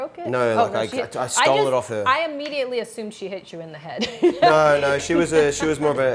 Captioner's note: chuckles